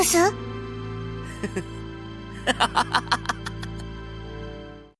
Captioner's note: laugh